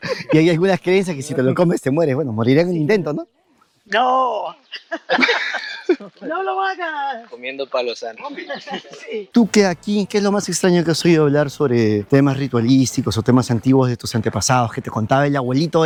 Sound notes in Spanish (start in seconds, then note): 4.7 risas